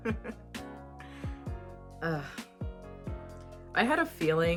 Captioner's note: laughs in pain